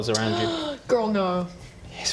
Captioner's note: gasp!